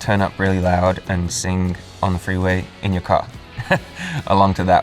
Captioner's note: chuckles